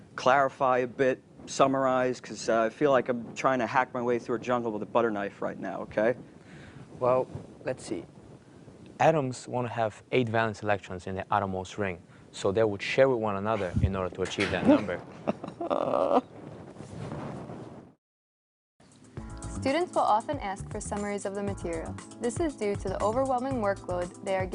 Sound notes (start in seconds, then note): 18.9 sobs